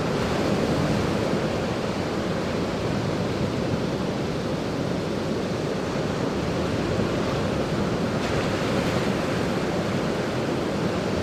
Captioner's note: sounds of waves